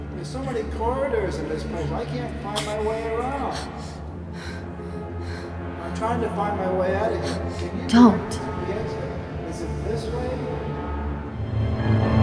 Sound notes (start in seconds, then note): 3.7 Yuen breathing heavily